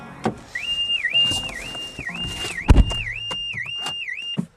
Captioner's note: car alarm blaring